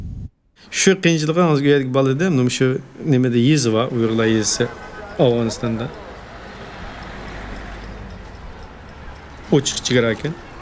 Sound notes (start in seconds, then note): 4.2 car horns honking in distance